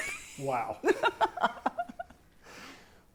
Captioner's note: laughs